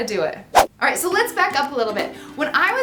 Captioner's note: whoosh